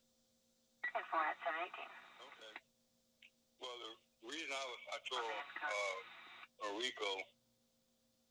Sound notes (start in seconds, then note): 1.8 radio chatter continues